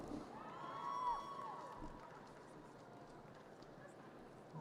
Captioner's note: audience cheers